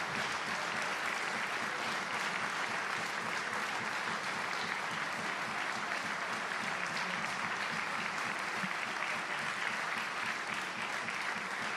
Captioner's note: applause